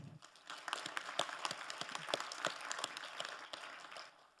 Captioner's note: crowd applauding